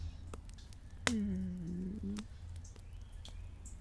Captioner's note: content Sigh